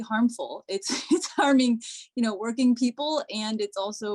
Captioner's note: laughter